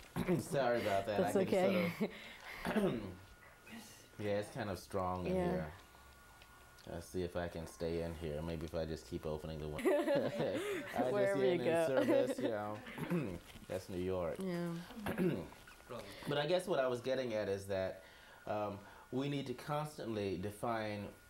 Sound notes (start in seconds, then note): 2.6 clears throat; 9.8 both laugh; 15.0 clears throat